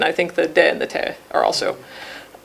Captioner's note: speaking foreign language